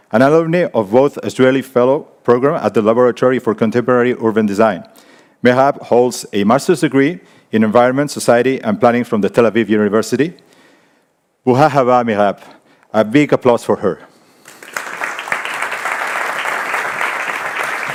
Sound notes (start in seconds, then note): 11.6 speaks in foreign language; 14.4 audience applauding